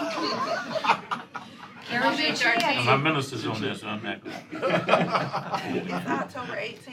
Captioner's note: laughter